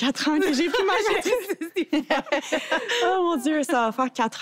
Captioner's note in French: rires